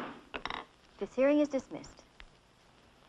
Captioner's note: gavel banging